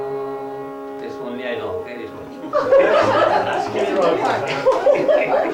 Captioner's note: laughter